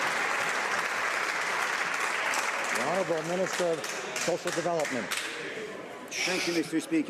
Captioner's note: some Applause